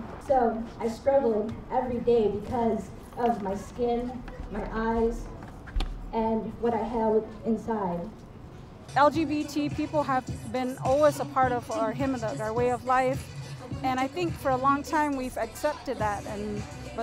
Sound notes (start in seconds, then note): none